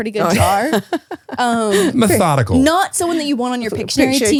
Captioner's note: laughs